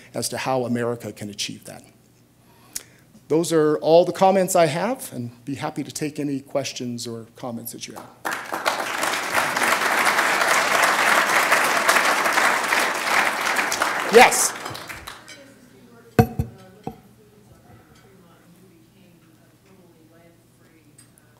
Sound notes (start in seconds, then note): 7.9 applause